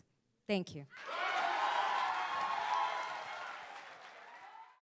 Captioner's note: audience cheering